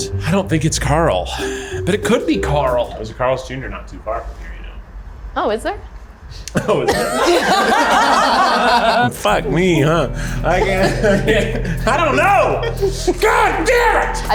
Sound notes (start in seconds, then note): 8.1 all laugh